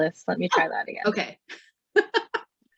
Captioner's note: chuckles